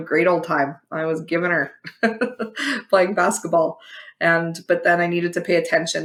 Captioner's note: laugh